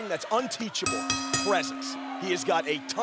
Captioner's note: bell ringing